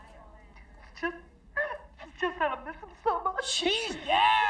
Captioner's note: crying